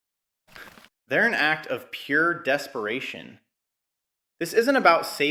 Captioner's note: exhales sharply